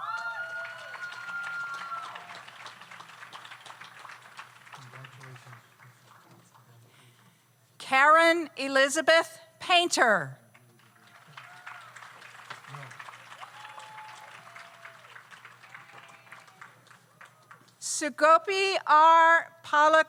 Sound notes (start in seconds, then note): 0.0 audience cheers; 0.0 audience applauds; 10.6 audience applauds